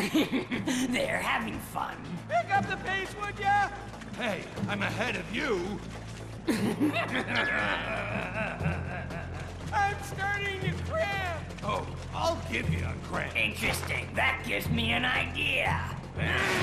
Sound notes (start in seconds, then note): 0.0 evil chuckling; 6.4 evil chuckling